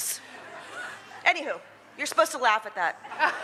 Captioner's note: laughter